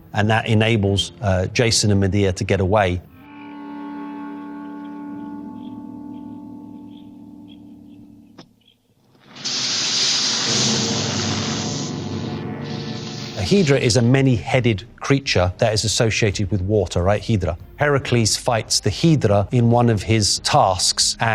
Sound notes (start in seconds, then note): 3.1 dramatic music; 9.2 serpents hissing